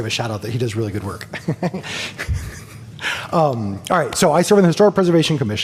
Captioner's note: laughter